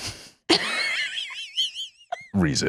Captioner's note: laughs